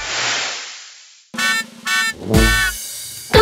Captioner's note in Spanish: Sonido de bocina